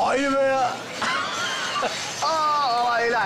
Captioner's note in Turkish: Gülme sesi